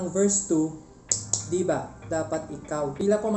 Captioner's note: taptap